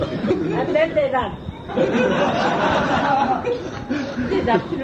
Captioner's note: laughter